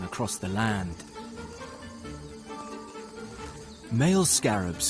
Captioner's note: insects buzzing; tense music continues